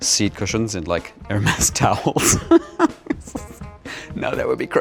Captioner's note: laughs